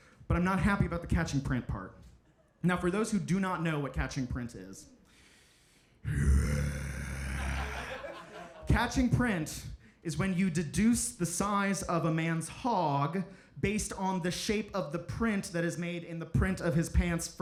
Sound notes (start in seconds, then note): 6.1 growls